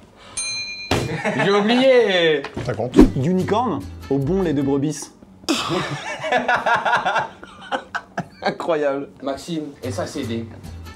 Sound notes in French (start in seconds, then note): 0.0 ricanement; 5.5 rires